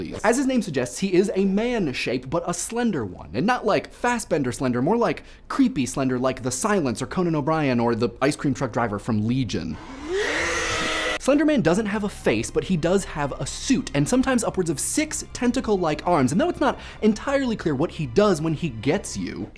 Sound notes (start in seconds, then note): 9.7 yells